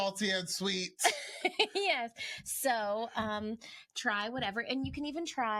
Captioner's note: giggles